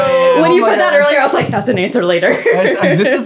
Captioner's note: laughing